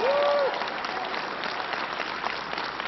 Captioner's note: applause